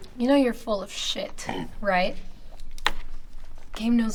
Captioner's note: Patrick coughs